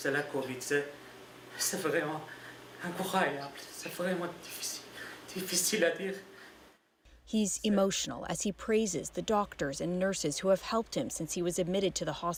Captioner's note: speaking french language